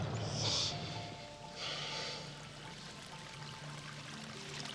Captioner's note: water splashing